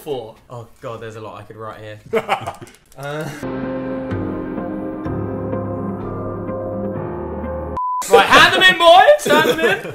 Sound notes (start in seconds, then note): 2.1 laughs; 3.4 dramatic music